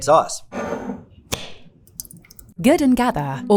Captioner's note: jar scraping; sauce sloshing; jar cap clacking